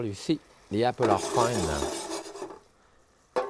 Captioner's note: pan scraping; lid clanging